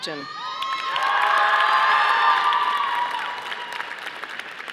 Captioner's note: audience applauding